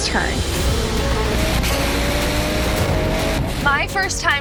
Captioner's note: thrilling music continues; engine revving